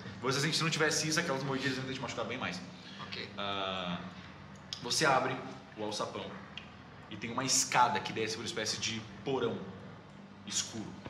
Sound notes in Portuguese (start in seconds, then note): none